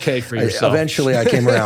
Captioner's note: laughs